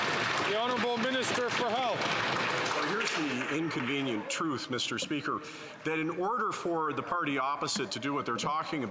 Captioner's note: some Applause